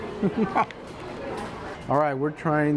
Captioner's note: laughs